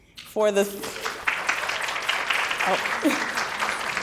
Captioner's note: applause